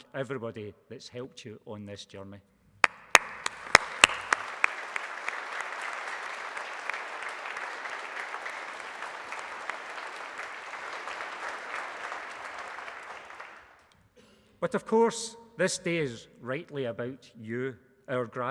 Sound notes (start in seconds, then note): 2.8 applause